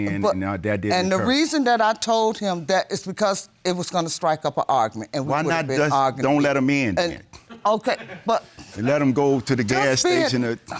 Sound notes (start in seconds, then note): 7.2 stammers; 7.8 audience members laugh